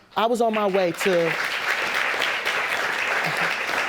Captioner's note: audience applauding